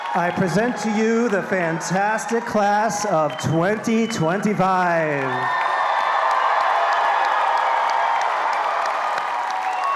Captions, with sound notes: I present to you the fantastic class of 2025. (all applauding and cheering)